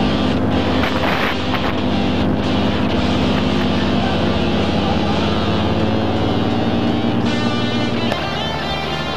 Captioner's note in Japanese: 笑い